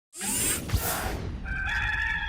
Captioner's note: air whooshing; cock crowing